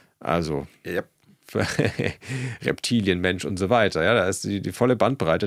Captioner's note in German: gelächter